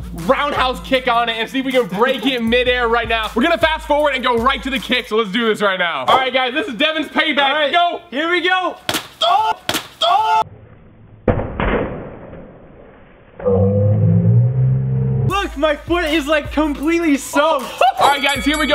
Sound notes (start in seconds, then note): 9.9 exclaim; 10.5 Wubble explodes; 13.8 growling; 17.6 laughs